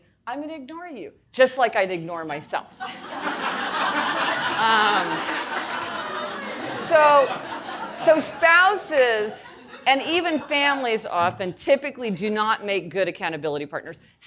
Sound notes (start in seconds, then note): 2.8 audience laughing